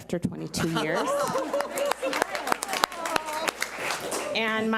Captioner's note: audience applauds